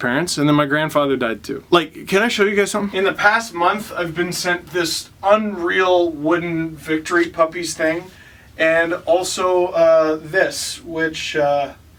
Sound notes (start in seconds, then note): none